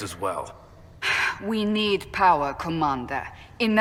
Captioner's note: sigh